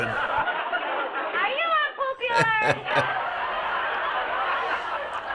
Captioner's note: chuckles